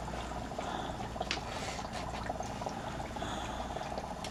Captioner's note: labored Breathing